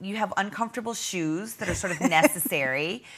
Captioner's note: laughing